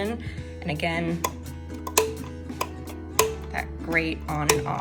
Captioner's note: click sounds